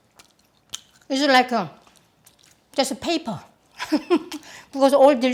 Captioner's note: laughs